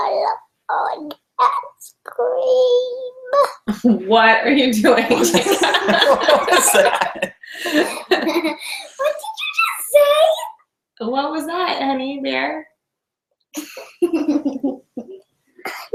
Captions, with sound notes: (laughter) - What did you just say? - What was that honey, dear?